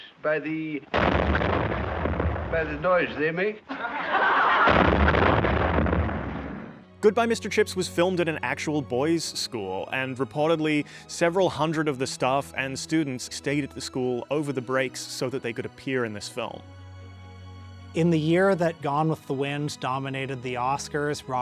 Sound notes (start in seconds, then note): 0.9 bomb exploding; 3.6 students laughing; 4.6 bomb exploding